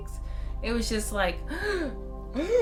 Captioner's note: <i>gasps</i>